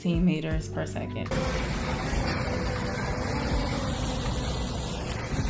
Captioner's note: drone whirring